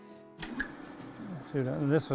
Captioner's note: wheel whirring